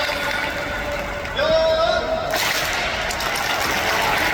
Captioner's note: clap!